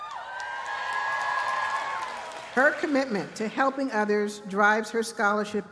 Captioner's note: cheers and applause